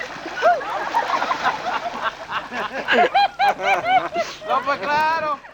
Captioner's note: laughter